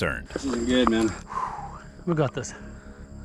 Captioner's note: exhale